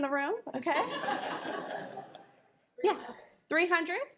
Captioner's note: audience laughs